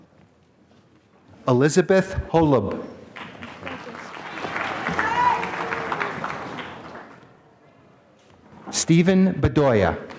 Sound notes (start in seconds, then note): 3.1 applause